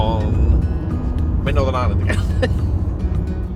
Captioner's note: laughs